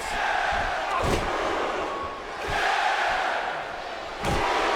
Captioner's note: audience cheering